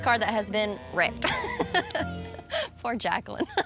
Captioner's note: laughs